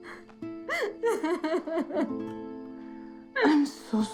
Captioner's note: crying